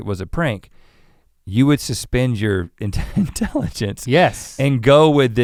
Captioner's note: chuckles